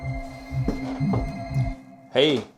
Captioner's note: footsteps scuffing